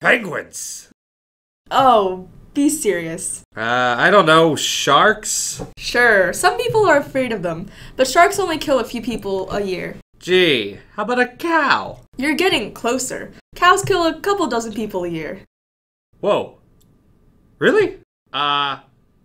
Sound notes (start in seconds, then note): 10.1 sarcastic tone